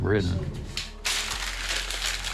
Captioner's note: paper crumpling